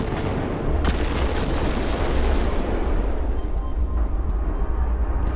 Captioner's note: explosion booms